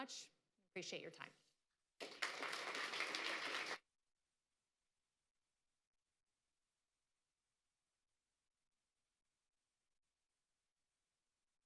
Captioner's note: applause